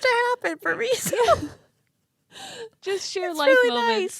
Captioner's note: both laughing